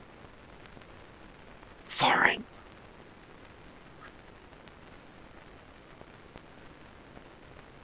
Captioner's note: whispers